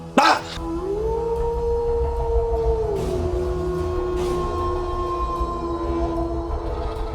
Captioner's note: dramatic music; screams; werewolf howling